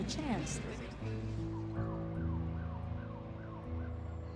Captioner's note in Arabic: صفارة الإنذار تصرخ